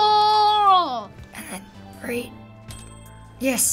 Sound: trophy ding

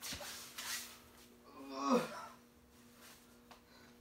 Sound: groans

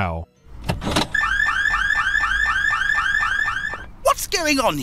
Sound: car alarm going off

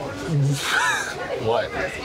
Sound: laughs

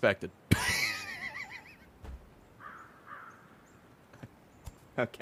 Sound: laughs

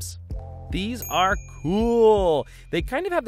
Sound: bell dings

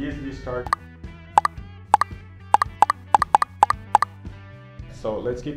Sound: pop-up sounds

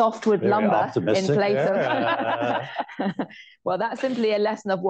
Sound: laughter

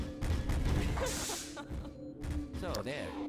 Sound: giggles

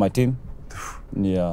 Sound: exhales

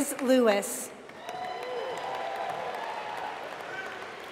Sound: applause

